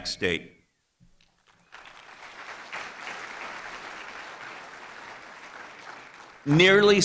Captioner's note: applause